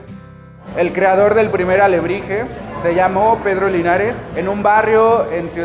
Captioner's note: speaking Spanish